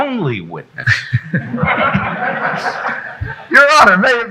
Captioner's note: chuckling; audience laughing